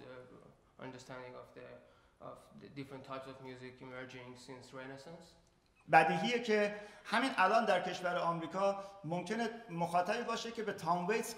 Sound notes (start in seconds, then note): 5.2 speaking in farsi